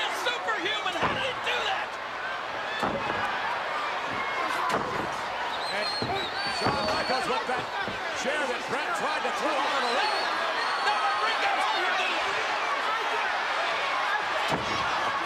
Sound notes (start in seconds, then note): 2.6 foot stomping; 11.2 all yelling